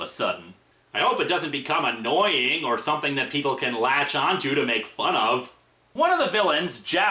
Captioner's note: sarcastic